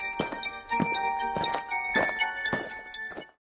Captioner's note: eerie music; aliens marching